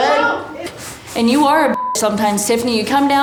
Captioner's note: beep